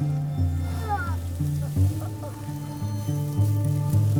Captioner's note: moans